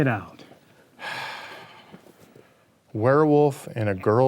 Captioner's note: sighs heavily